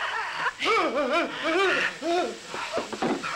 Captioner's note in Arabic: أنين